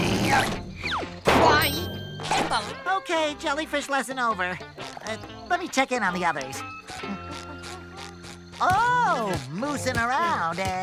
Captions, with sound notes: Okay, jellyfish lesson over. Let me check in on the others. [humming] Oh, moosing around, eh?